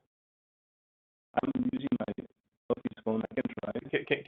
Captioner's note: audio blurs